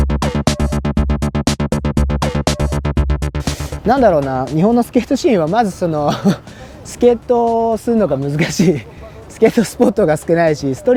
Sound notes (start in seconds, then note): 3.8 speaking in foreign language